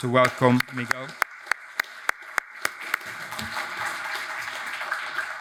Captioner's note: audience applauds